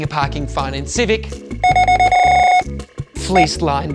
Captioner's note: scanner beeping repeatedly